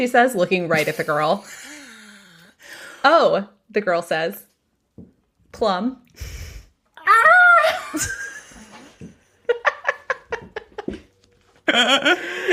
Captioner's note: screams